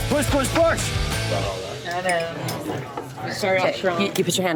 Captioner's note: chatter